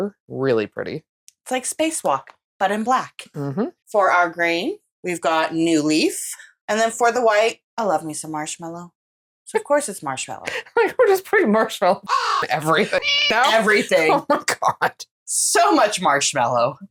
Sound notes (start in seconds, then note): 12.1 caw; 12.1 meow